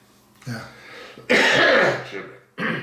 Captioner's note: coughing